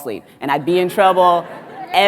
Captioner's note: audience laughs